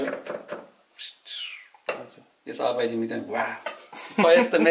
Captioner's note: makes whistling sounds